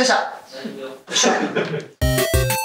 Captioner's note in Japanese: 笑い